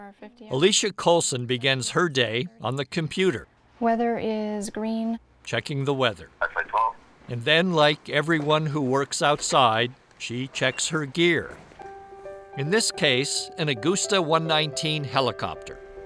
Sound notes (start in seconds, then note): 6.5 radio chatter